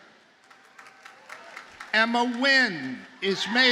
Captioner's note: audience applauds